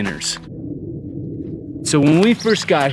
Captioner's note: jet engine roaring